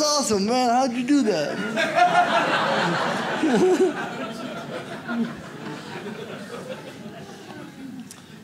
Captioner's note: audience laughs